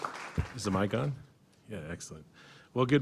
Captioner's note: applause